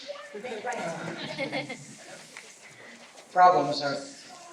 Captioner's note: laughter